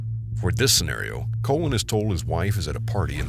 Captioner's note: voiceover